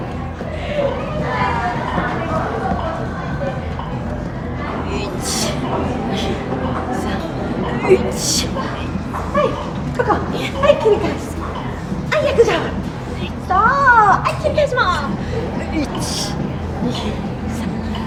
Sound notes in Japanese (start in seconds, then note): 4.8 日本語音声